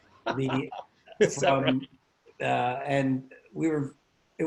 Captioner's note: laughs